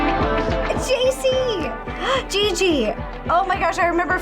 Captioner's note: gasps